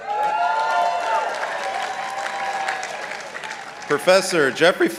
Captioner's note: participants applauding